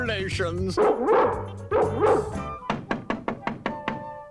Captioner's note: Pongo barks; knock on door